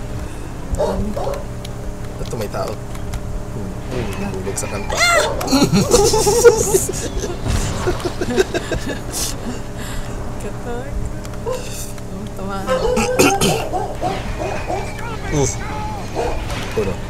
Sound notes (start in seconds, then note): 4.6 screaming as if we're actually experiencing it